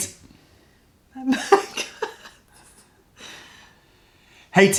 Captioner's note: laughter